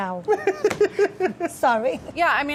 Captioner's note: laughing; slapping